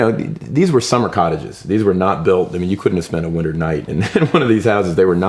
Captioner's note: laughs